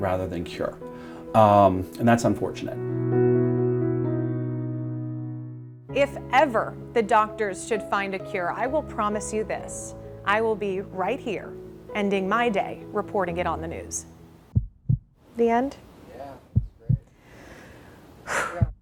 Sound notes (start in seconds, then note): 14.5 heart beat; 16.5 heart beat; 17.0 deep breath